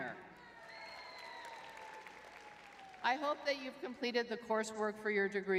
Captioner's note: crowd cheering